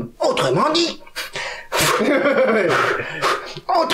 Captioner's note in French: Rires et souffles